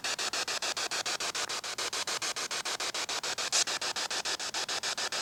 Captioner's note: static hissing